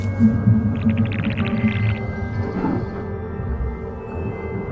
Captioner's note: creature chittering